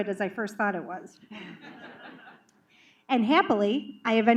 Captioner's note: laughter